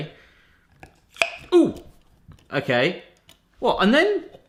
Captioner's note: pop